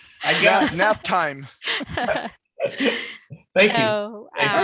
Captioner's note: laughter